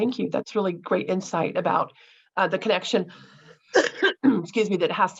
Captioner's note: coughs